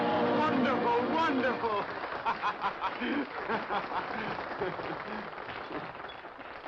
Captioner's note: laughing